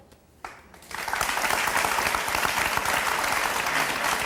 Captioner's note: audience applauding